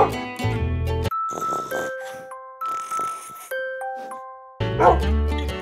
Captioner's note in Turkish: Horlama, Hırlama ve Ninni Tarzı Ses; Havlama Sesi